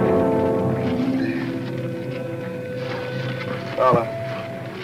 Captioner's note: groans